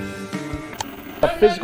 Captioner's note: surf rock music; static; ka-chunk